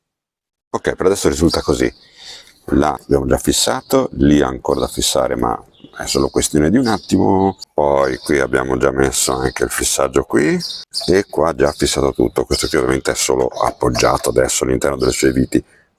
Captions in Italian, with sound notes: Ok, per adesso risulta così. Là [sbuffare] abbiamo già fissato. Lì ha ancora da fissare, ma è solo questione di un attimo. Poi qui abbiamo già messo anche il fissaggio qui e qua già fissato tutto. Questo qui ovviamente è solo appoggiato adesso all'interno delle sue viti,